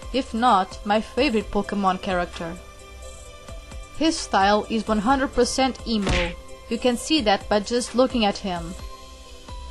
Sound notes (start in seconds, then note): 6.0 smack sound effect